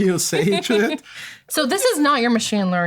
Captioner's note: laughter